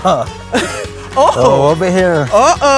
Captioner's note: chuckles